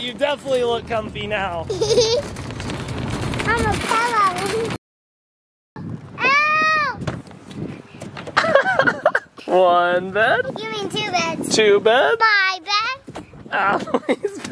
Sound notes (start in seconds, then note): 1.6 giggles; 8.3 laughs; 13.6 laughs